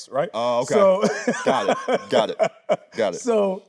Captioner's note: laughing